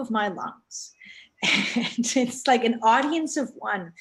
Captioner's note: both laughing